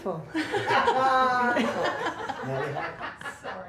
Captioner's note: laughter